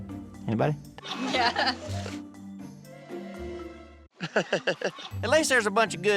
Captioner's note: chuckling